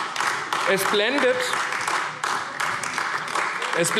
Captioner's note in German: Beifall AfD